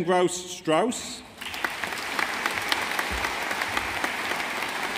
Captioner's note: audience applauding